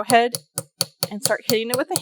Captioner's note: light hammering